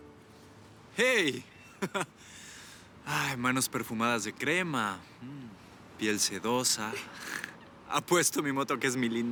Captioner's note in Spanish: Ríe